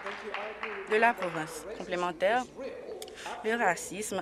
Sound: applause

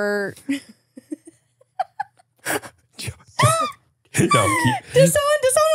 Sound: everyone laughs

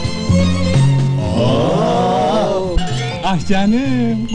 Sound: "Woow" sounds from around

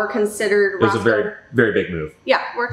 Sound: laughing

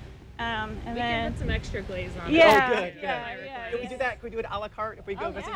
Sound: laughs

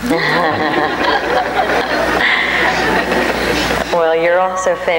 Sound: audience laughs

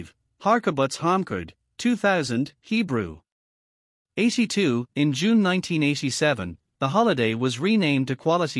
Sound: Hebrew

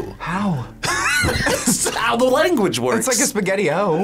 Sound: laughs

